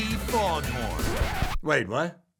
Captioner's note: record scratches